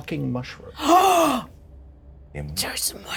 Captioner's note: Certainty gasps